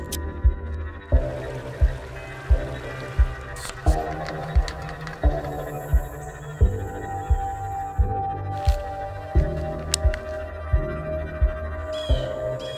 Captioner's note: intense music; water rushes; birds caw